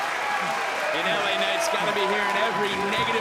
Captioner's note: crowd cheers